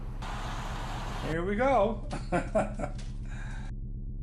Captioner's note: low synth hum; laughter